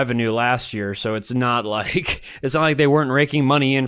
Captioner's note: chuckles